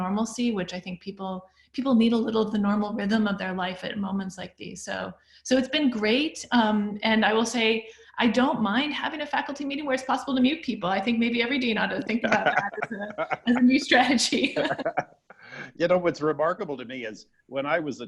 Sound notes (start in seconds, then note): 12.0 laughs